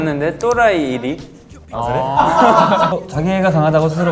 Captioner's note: laughing